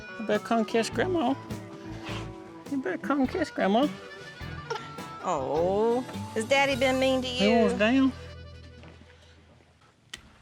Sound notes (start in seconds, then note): 4.0 cries